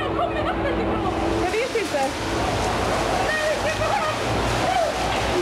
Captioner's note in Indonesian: suara gelombang air; suara kepanikan